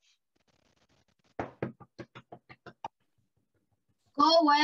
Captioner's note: knocking